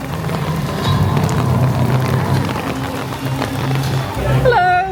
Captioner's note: rain pattering; spooky music